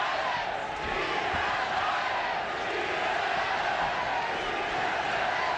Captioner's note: crowd chanting